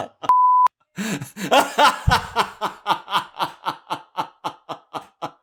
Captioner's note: laughs